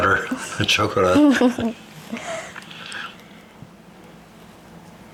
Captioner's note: chuckling